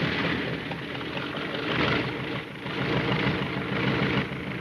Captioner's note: engine puttering